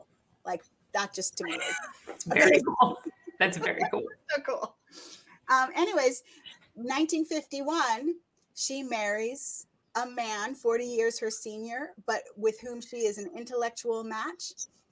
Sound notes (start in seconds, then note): 1.4 chuckling; 4.9 laughs